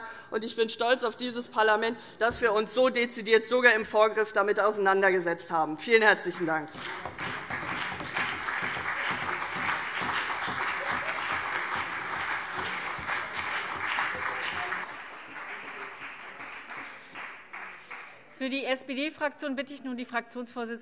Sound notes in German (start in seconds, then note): 6.6 Beifall CDU und BÜNDNIS 90/DIE GRÜNEN